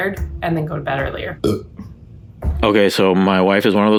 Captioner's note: burps